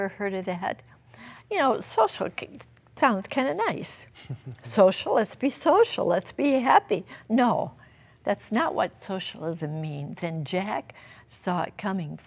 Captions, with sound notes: THAT? YOU KNOW SOCIALISM SOUNDS KIND OF NICE. >>[CHUCKLING] >>SOCIAL, LET'S BE SOCIAL. LET'S BE HAPPY. NO, THAT'S NOT WHAT SOCIALISM MEANS AND JACK SAW IT COMING FRIENDS.